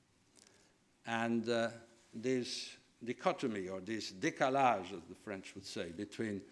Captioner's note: foreign language